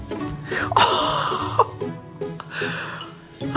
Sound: laughs

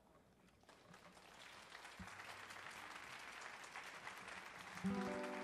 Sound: audience applauds

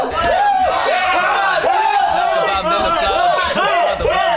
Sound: practice room filled with cheers

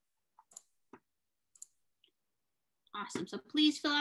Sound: mouse clicking

